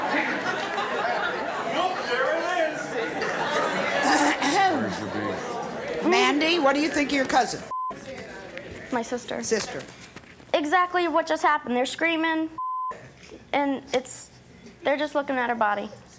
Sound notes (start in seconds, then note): 3.2 audience laughing; 4.0 Sally clearing throat